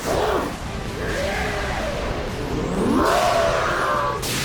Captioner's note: Suicune growls; both grunting